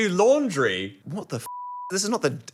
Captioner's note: beep